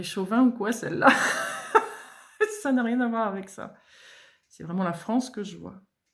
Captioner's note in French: rires